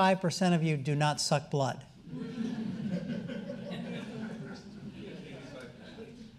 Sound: audience chuckling

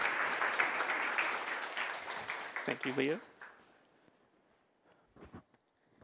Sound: applause

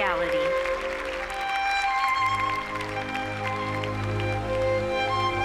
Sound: audience applauds

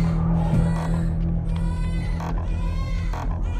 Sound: distant baby crying

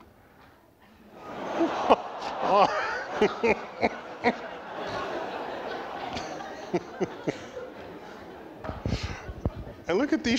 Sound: laughter

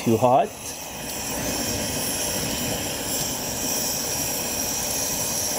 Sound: flame whooshing

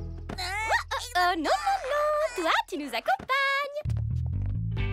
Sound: amaru exclaiming

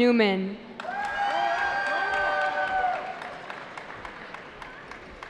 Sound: cheering

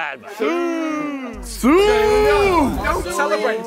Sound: contestants chanting

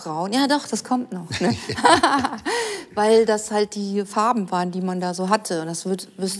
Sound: both laugh

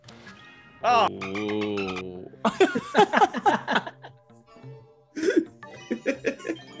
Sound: laugh

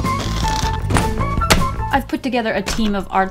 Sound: smack!

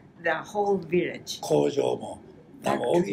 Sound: foreign language

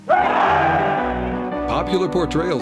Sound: crowd cheers

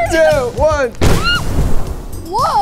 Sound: laughing; air whooshing; screaming

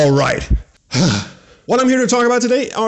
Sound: grunting sigh

